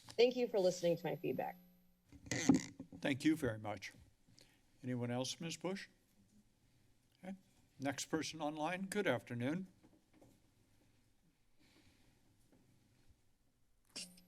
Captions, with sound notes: Thank you for listening to my feedback. [mic crackling] - Thank you very much. Anyone else? Ms. Bush? Okay, next person online. Good afternoon. [silence]